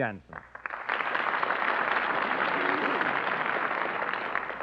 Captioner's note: applause